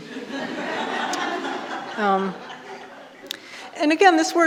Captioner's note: audience laughing